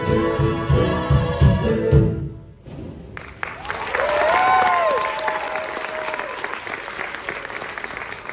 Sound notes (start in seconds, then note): 2.6 thunder; 3.1 applause